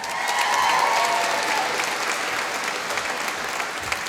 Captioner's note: applause